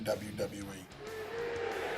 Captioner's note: applause